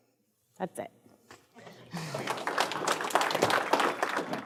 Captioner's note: audience claps